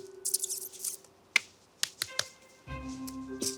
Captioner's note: mimics rat squeaks